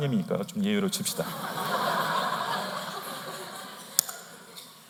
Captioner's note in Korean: 웃음